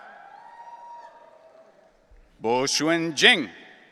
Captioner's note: audience cheering